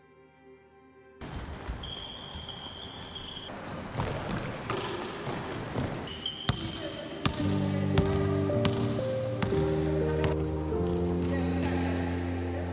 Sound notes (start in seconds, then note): 1.3 tennis shoes squeaking; 8.6 basketball bouncing; 9.9 pensive music